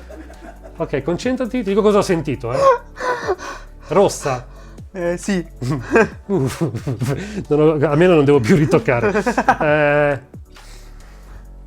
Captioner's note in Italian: risata